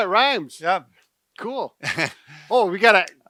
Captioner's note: chuckles